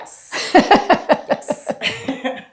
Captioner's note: laughing